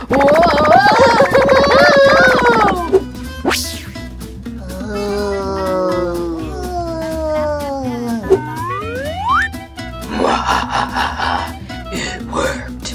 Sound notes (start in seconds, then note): 0.0 evil laughing; 4.5 groaning